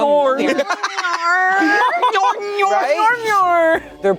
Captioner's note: laughing